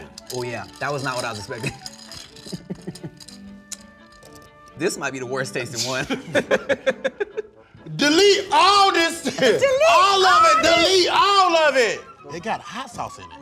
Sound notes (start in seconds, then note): 5.8 laughing